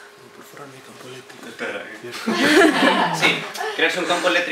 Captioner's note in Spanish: risas